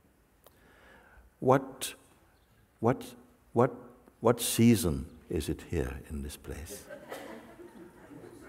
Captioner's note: Lachen